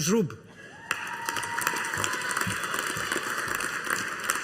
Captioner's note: audience applauding